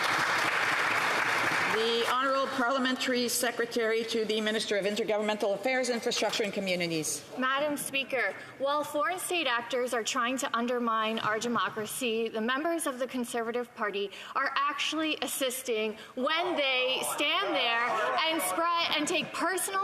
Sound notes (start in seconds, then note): 3.5 applause